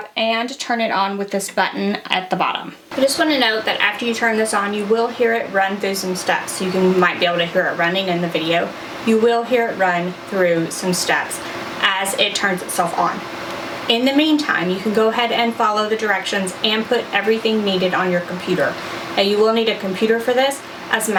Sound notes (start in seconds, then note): 3.5 printer whirring